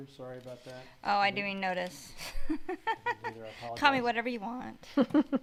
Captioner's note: laughs